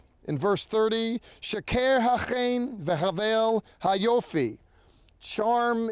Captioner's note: speaking in Hebrew